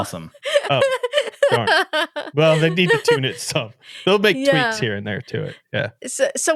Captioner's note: laughing